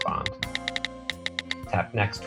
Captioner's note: keyboard clicking